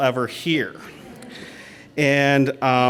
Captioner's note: laughter